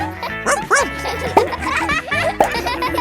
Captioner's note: barks